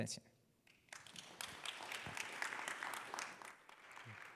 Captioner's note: applause